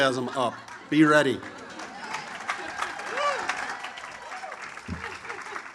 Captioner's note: audience applauds